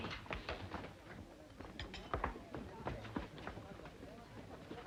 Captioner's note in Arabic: خطوات; ثرثرة خافتة